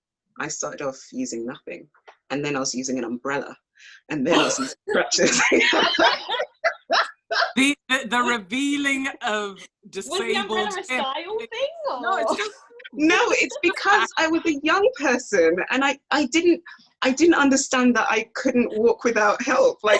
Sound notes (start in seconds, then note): 4.3 laughs